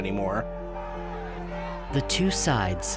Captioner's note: angry shouting